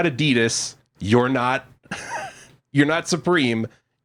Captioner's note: giggles